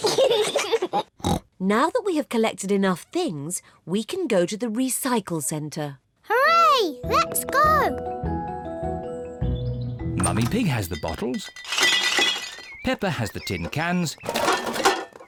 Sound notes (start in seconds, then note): 0.0 kids giggle; 10.1 bottles rattle; 13.1 cans rattle